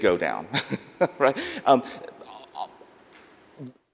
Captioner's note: laughs